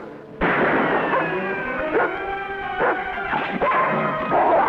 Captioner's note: gun firing